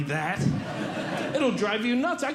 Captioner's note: audience Laughing